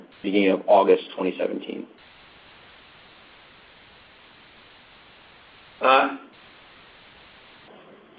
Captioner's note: silence